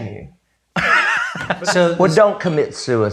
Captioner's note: laughs